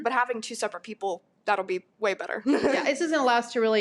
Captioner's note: laughs